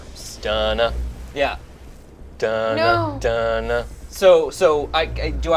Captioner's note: host humming theme